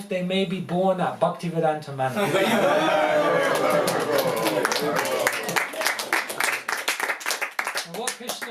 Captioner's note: applause